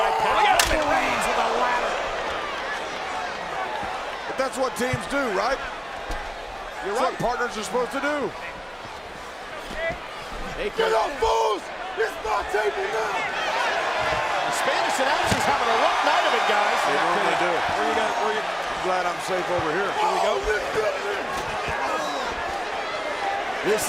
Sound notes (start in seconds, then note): 14.8 crowd cheering; 20.2 crowd cheering